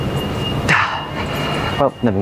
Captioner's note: sigh